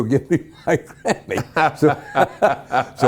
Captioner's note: laughing